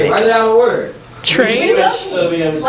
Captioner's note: people talking